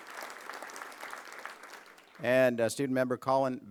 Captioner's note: applause